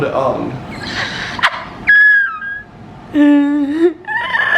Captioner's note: cackling